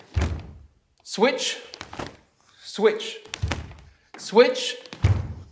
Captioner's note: snapping